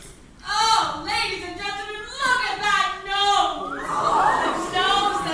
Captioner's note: crowd murmuring